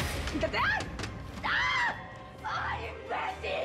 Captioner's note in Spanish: gritos